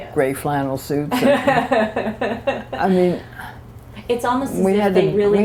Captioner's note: laughter